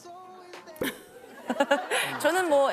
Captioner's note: laughter